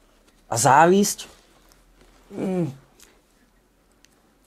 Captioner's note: grunts